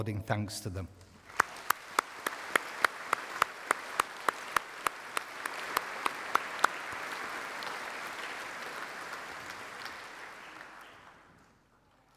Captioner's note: applause